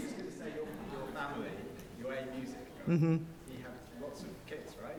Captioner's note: man speaking in audience